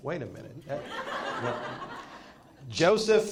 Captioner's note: attendees laugh